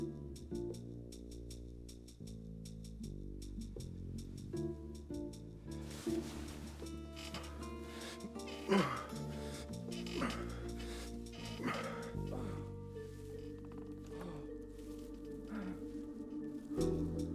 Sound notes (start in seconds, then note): 8.3 grunting; 11.5 mr. grey grunting